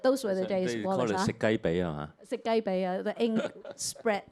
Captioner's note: Cantonese